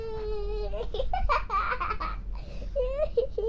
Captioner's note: kid laughing